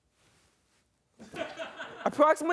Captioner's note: man laughs